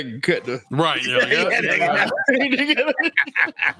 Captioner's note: laughs